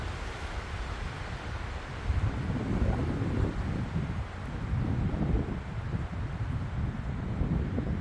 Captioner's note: wind howling